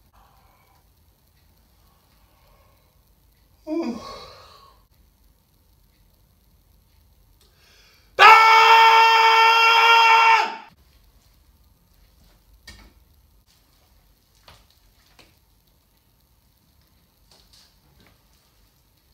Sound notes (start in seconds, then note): 3.6 yawns